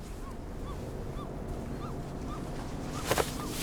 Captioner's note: seagull squawks in the distance; wetsuit rustling